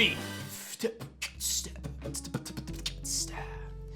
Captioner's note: beatboxes